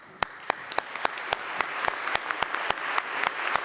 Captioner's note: applause